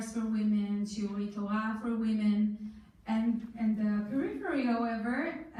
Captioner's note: foreign language